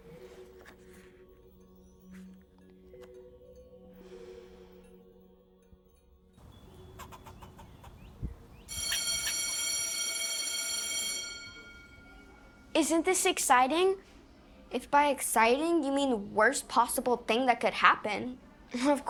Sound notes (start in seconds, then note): 0.1 gentle music; 8.7 bell ringing